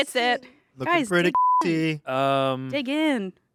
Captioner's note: beep